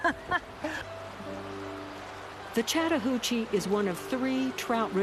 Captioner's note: laughing